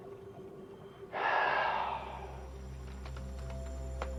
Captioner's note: Ed sighs